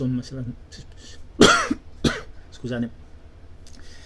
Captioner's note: coughs